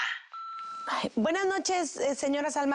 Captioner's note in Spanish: Pitido